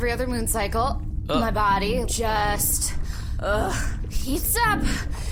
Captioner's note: internal rumbling sound